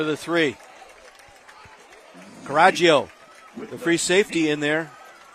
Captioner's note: applause